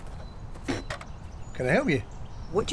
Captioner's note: spitting